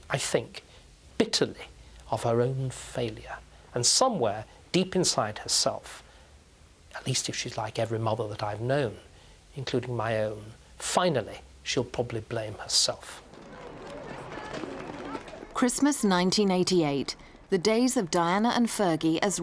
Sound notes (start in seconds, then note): 13.2 crowds murmuring